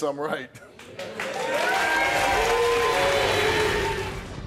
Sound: audience cheers; dramatic music

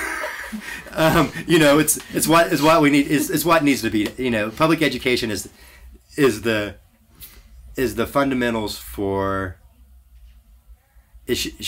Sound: laughs

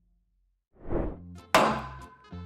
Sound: dull thud

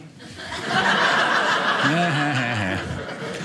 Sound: audience laughing

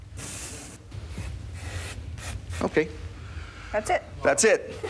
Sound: spraying

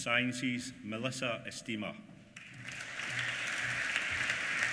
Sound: applause

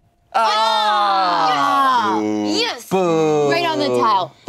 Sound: groans and boos

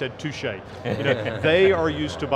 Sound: all laughing

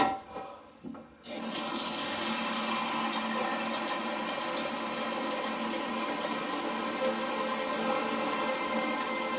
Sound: water running

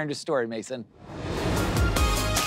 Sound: transition whooshes; upbeat electronic music

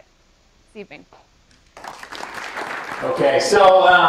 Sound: applause

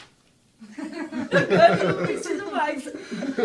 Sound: laughter

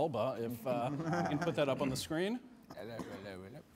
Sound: all chuckle

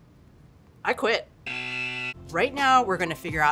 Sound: buzz

